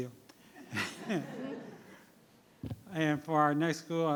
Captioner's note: everyone laughing